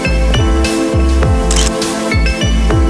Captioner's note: photo Click